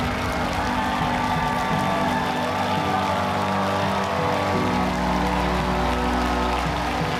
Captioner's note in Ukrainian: оплески